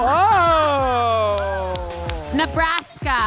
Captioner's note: audience applauding